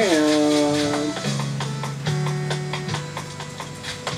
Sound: footsteps

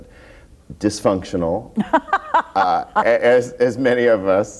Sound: laughs

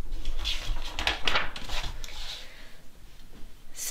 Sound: page flips

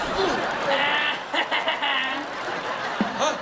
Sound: laughing

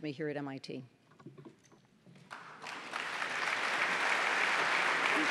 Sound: applause

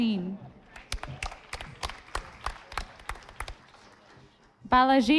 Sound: audience applauding

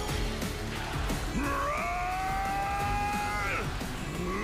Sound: roaring

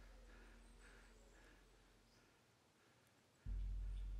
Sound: man breathes heavy

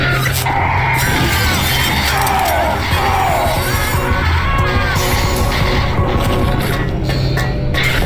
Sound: screaming in pain

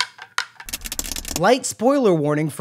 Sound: nails clack on window

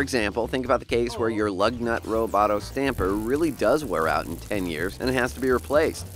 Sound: robot breaking down

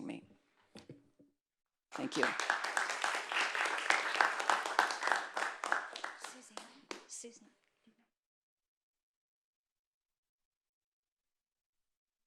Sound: applause

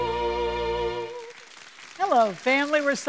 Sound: audience applauds

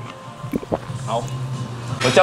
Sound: swallow

